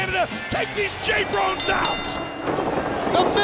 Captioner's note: bell rings